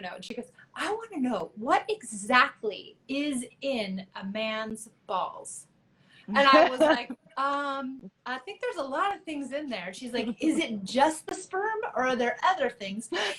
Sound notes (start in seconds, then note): 6.4 laughs